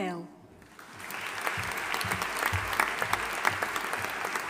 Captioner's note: audience applauding